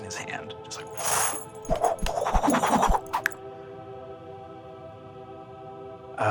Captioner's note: mimics swishing